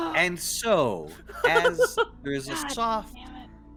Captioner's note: Cornette laughs